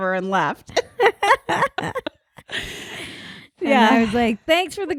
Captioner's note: laughing